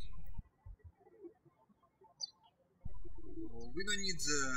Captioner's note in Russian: птички щебечут